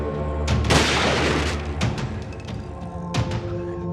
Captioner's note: rifle clicks; gun fires